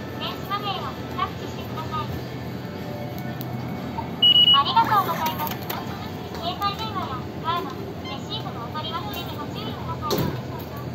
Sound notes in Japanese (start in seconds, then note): 4.2 交通系icカードの決済音